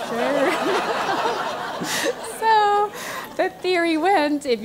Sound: laugh

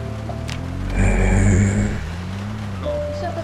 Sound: groans

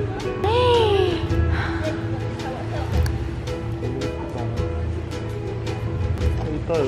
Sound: gasp

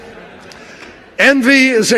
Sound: laughter

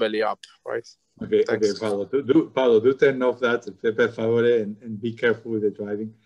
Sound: speaking in foreign language

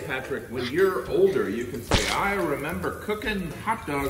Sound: hot dog plopping

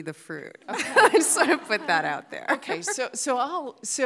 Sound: audience laughing

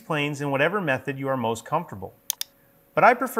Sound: mouse clicking

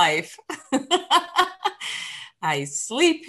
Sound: loud laugh

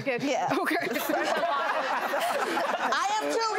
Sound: laughing

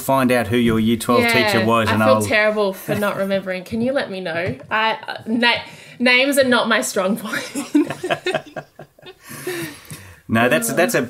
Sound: both laughing

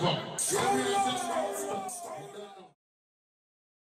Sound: echoing

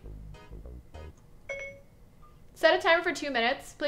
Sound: phone dings

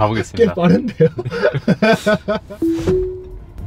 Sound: laughs

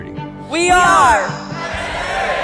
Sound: crowd

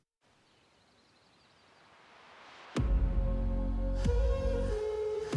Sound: birds chirping; heavy bass music

